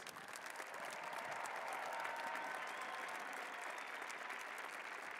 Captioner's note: cheers and applause